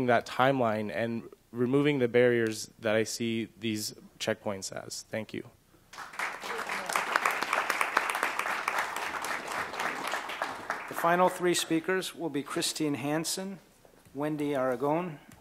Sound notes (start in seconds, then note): 5.9 applause